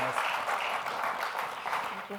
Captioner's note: audience applauding